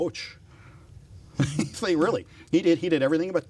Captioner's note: laughs